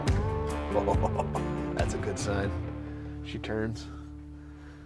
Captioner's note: chuckles